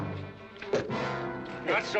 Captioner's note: thump